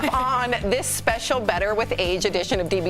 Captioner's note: laughter